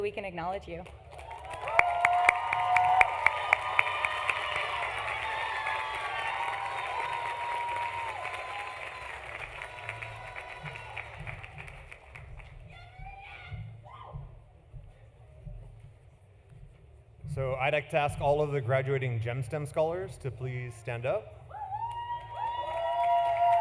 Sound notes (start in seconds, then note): 8.0 applause; 8.0 cheering